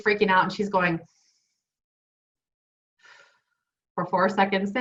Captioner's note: inhaling and exhaling